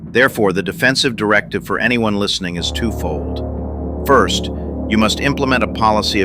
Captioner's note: excited